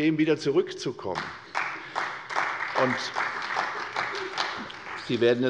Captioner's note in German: Beifall bei der CDU